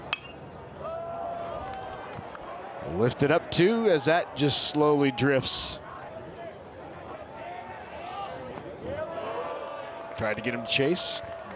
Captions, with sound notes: (bat dings) Lifted it up too, as that just slowly drifts. (fans cheer) Tried to get him to chase.